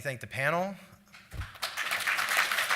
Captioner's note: applause